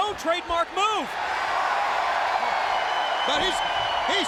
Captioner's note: audience cheers